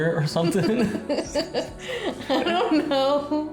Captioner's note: both laughing